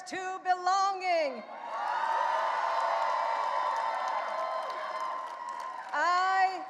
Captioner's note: audience cheering and applauding